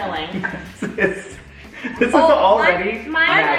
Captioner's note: dad laughs